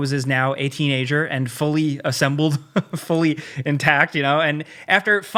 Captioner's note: laughs